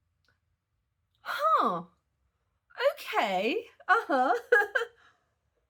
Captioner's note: laughing